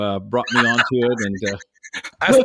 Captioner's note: laughing